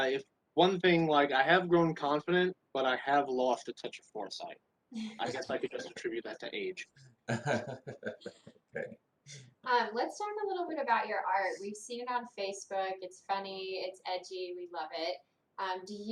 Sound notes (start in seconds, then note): 5.0 laughs; 7.3 laughs